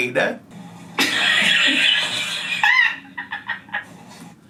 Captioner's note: laughing